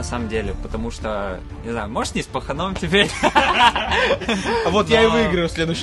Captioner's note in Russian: смеется